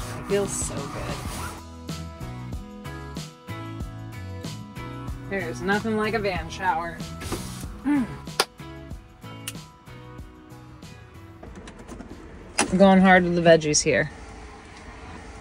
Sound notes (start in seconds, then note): 1.6 gentle upbeat music; 8.3 snapping; 8.5 clapping